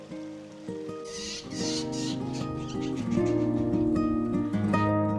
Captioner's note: birds screetching